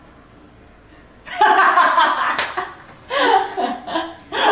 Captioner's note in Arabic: ضحك